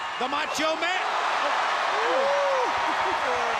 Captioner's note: crowd cheering